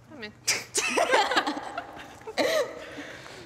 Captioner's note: laughing